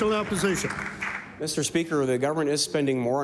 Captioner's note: applause